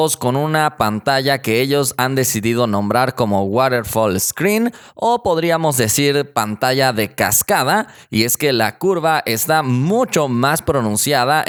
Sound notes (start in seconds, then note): 7.2 Spanish